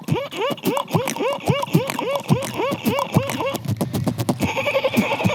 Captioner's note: beatboxes